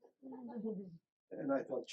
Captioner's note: group laughing